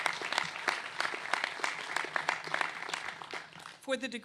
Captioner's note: applause